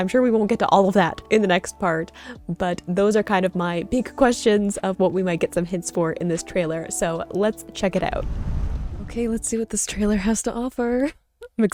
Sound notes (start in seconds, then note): 8.0 whooshing sound